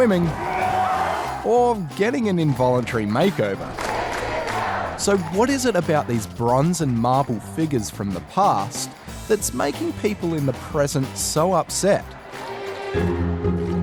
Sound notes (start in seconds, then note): 0.0 cheering; 3.6 chanting